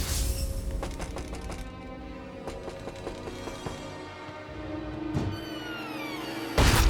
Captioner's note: dramatic music; killer knocks